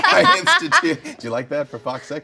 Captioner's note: laughing